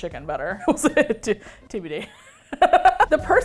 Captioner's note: laughing